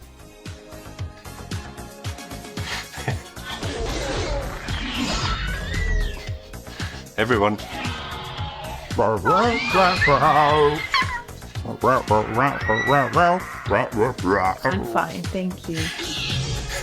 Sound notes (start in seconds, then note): 3.4 velociraptor screeching; 9.0 imitating dinosaur roaring